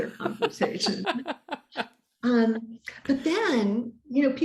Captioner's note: laughs